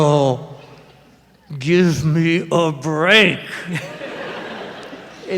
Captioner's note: laughter